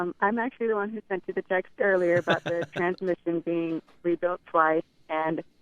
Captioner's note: laughs